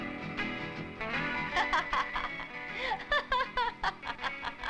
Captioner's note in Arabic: لولو تضحك